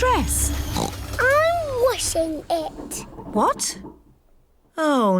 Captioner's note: oinks